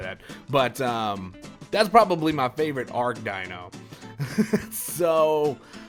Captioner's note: laughter